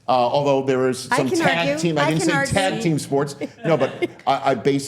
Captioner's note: laughs